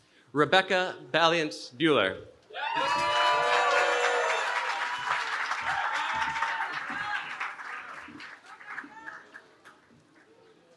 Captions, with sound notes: Rebecca Vaillant Buehler. [CHEERING]